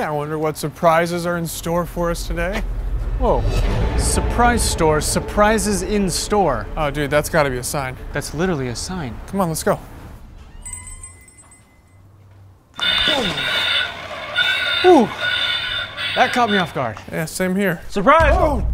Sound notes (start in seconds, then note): 10.6 jingling bell; 12.7 mechanical Crow squawking